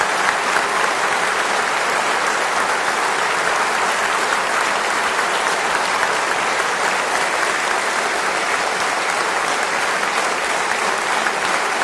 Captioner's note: applause